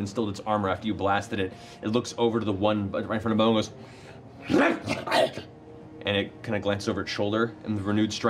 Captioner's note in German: knurrt und faucht